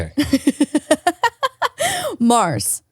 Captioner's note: laughs